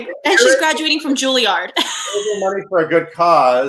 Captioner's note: laughing